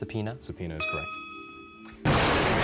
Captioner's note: lightning crashes